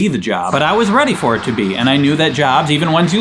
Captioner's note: traffic zooming